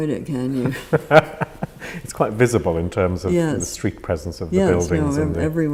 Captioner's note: laughs